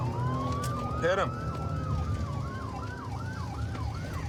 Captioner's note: sirens wailing